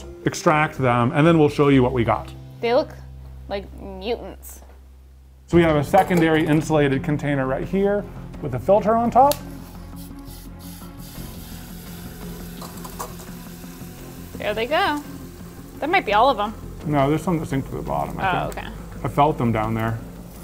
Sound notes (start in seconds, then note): 10.1 dramatic music; 10.1 liquid nitrogen bubbling